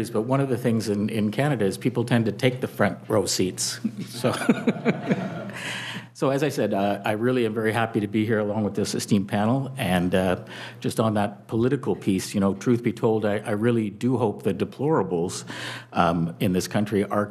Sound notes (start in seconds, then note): 3.8 audience chuckling